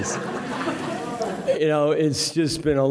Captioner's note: audience laughing